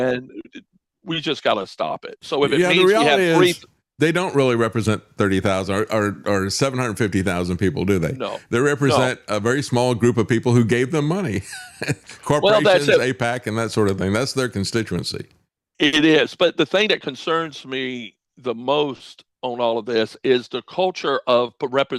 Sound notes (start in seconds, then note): 11.5 laughs